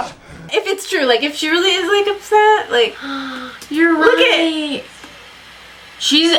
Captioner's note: gasps